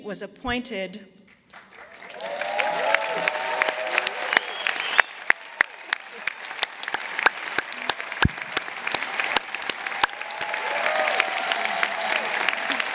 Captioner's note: applause